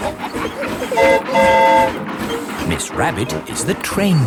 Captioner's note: train whistle toots